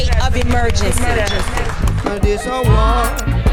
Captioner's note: audience clapping